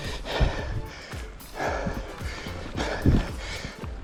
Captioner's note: pants